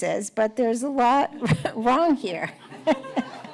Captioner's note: laughter